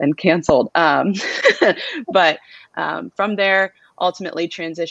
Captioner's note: laughter